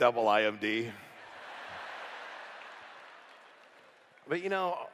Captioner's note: laughter